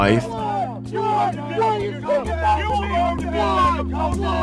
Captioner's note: soldiers shouting